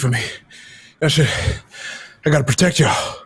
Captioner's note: breathes heavily